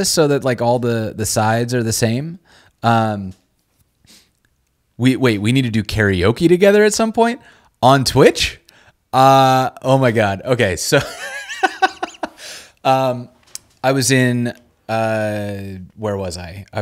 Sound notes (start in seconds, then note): 11.1 laughing